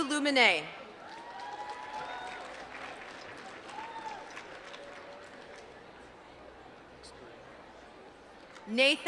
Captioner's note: applause